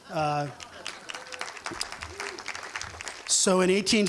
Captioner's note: applause